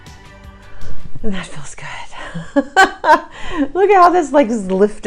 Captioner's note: chuckles